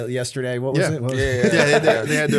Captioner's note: laughter